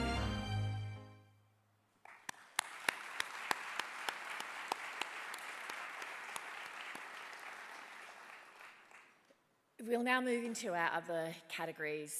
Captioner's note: applause